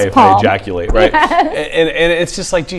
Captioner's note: laughs